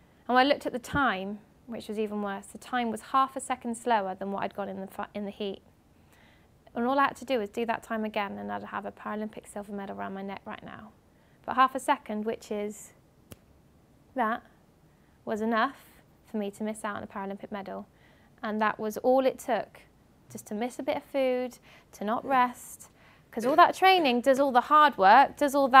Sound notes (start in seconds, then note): 13.2 clicks fingers